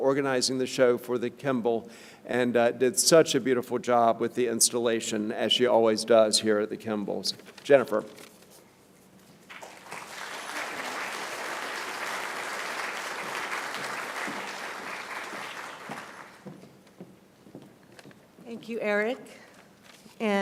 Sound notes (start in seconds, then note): 9.4 applause